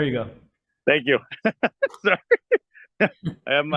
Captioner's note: laughing